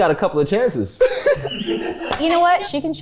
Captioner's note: everyone laughs